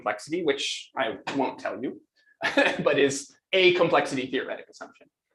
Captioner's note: laughs